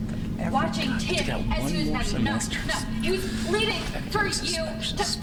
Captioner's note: Lincoln murmura